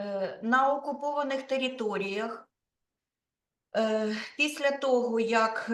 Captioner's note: speaking Ukrainian